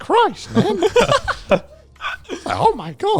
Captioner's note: laughing